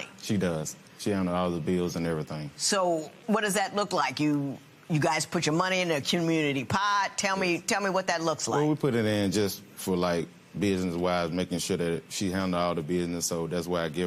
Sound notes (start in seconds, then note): none